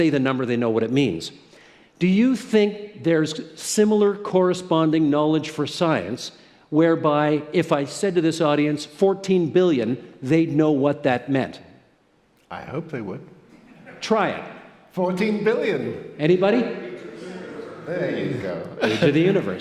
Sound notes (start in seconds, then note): 7.1 laughter